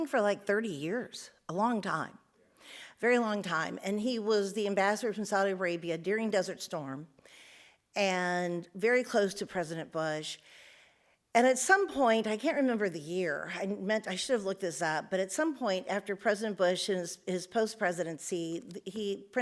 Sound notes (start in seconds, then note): none